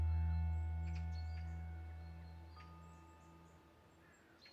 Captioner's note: birds chirping